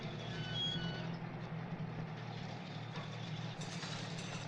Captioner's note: gate creaking